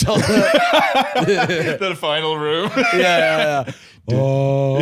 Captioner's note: laughs